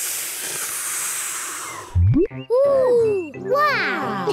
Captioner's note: takes big breath and blows